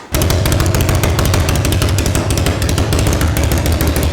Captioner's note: motor running